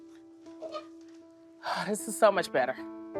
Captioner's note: sighs